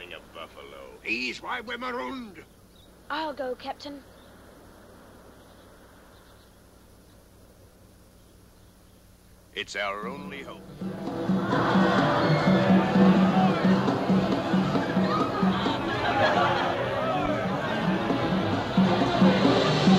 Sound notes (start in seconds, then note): 10.4 festive music; 11.0 laughing